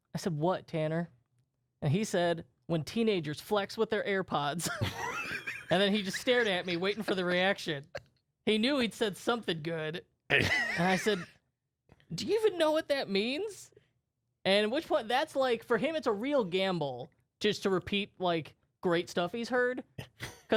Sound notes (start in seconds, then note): 4.6 laughter; 10.3 laughs